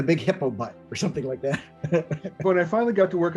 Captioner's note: laughs